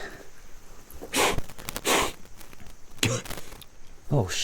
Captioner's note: Pete blows